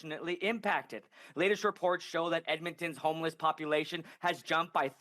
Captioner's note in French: voix de l'interprète